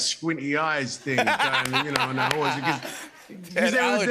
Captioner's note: laughter